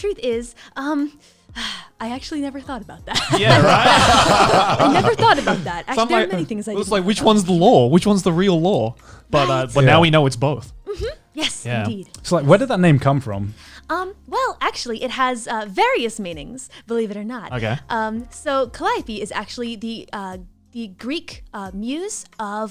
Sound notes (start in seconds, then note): 3.1 laughs